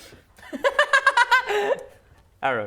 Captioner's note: laughing